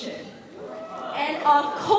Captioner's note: cheering